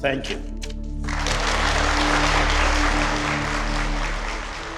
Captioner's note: applause